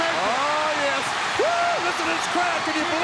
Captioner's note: audience cheering